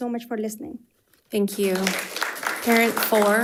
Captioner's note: crowd applauding